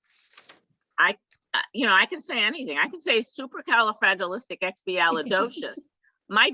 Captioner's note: laugh in the background